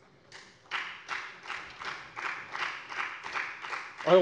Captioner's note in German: Beifall bei der FDP